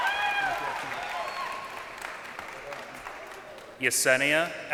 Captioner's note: crowd cheering